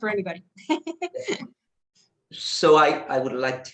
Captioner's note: chuckles